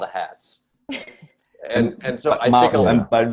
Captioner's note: Desi sniffles